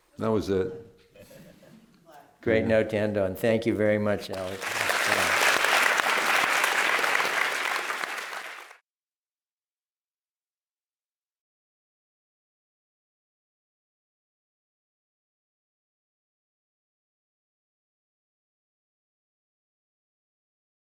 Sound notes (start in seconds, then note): 4.3 applause